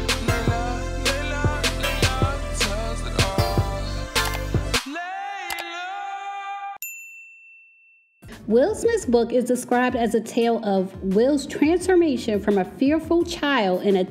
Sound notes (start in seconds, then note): 6.8 bell dings